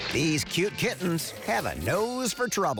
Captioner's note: all chattering